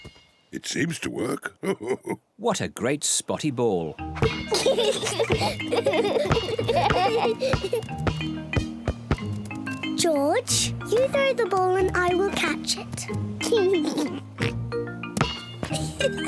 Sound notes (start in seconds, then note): 1.1 laughs; 4.2 both laugh; 12.7 both laugh